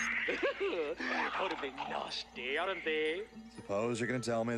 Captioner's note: giggles